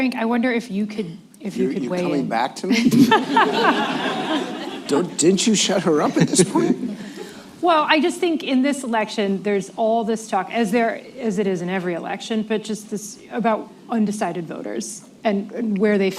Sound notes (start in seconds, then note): 2.7 laughter